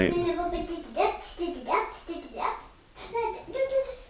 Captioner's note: chattering